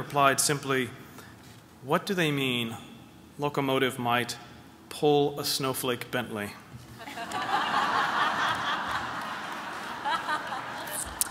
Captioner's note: laughter